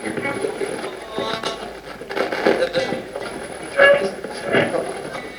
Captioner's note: radio channel changing